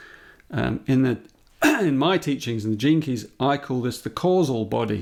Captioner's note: clears his throat